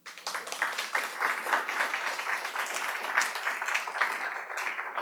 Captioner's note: audience applauds